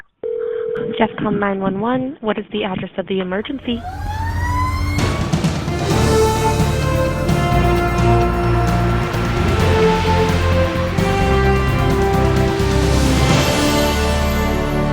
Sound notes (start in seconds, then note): 0.3 call tone; 3.9 firetruck siren; 5.2 dramatic music